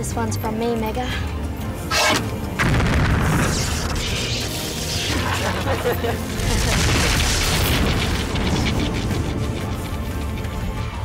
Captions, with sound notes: This one's from me, Mega. (explosion blasts)